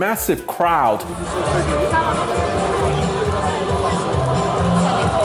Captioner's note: crowd talking